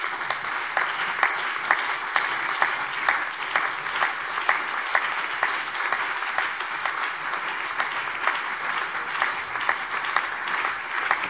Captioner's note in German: Anhaltender lebhafter Beifall CDU und BÜNDNIS 90/DIE GRÜNEN